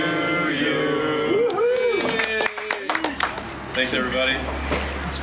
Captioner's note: whoops and applauds